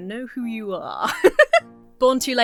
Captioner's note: laughs